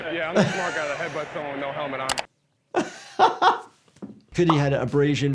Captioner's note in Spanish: doctor riendo